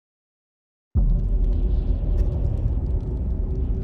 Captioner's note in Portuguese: vento de inverno soprando